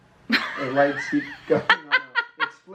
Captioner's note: woman laughs